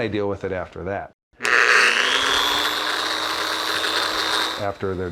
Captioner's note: drill buzzing